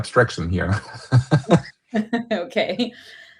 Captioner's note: laughter